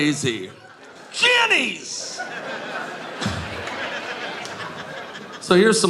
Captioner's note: audience laughing